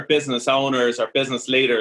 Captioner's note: none